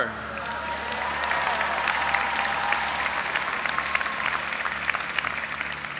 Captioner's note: audience applauding and cheering